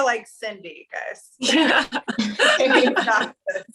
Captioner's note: laughter